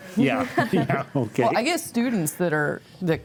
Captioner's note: chuckles